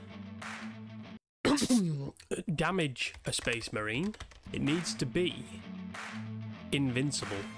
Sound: cough

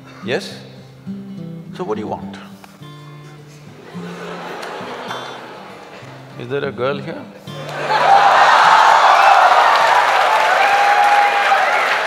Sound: laughter & Applauds

